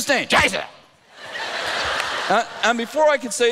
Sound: laughter

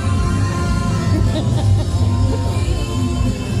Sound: laughs

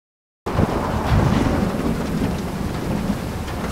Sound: rain pattering

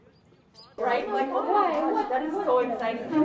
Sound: people chattering

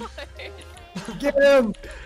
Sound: laughing

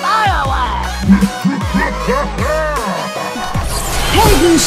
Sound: victorious laughter

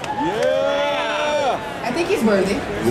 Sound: audience cheering

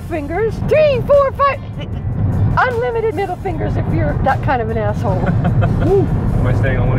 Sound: giggles

